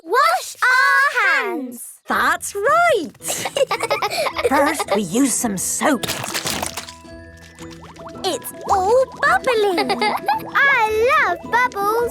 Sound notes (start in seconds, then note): 3.2 laughing; 5.2 squirt! squirt!